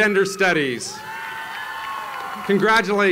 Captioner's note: applause